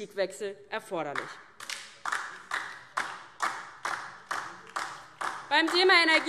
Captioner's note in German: Beifall DIE LINKE